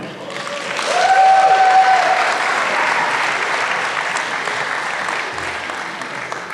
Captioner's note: applause